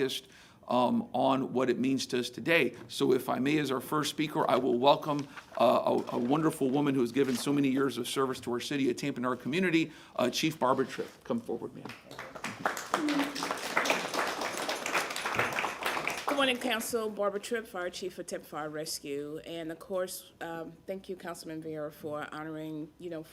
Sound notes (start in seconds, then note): 17.4 applause